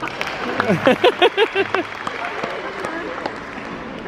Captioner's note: crowd applauding